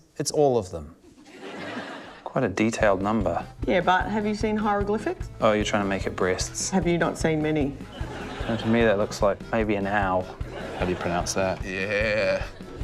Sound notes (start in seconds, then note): 1.0 laughter; 7.9 laughter